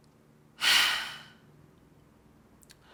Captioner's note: heavy negro spiritual sigh